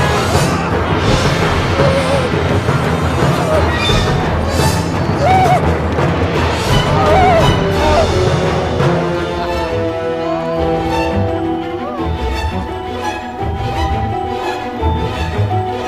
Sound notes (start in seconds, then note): 0.2 intense music continues; 5.2 Ichabod screams; 6.2 intense music continues; 7.0 Ichabod screams; 8.8 intense music continues